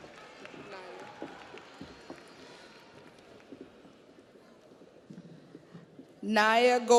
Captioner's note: audience applauds